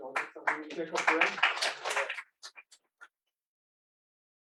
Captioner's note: applause